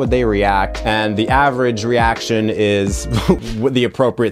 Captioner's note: laughs